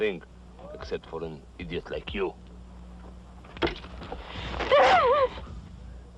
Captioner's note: shouts; ripping